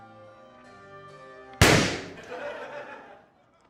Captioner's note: balloon pops